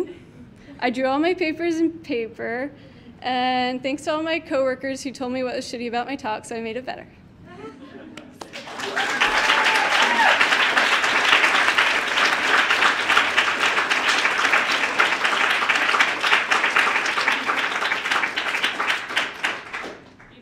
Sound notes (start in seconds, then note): 7.5 laughing from the audience; 8.4 audience clapping and cheering